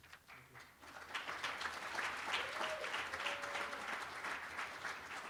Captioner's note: applause